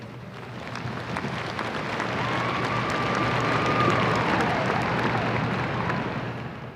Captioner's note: audience applause